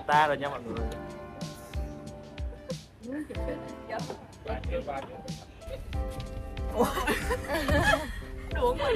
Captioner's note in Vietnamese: laugh